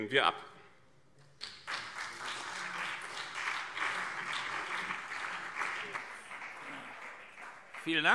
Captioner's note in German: Beifall BÜNDNIS 90/DIE GRÜNEN und CDU